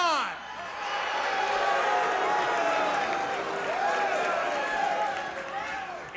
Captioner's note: audience booing and clapping